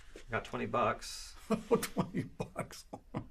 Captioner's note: chuckles